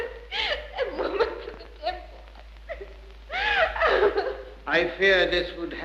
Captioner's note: sobs